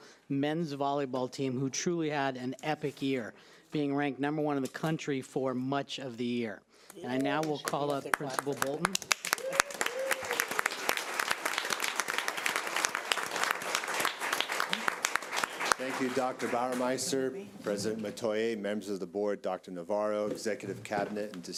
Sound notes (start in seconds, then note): 9.7 audience applause